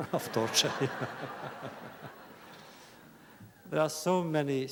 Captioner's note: laughter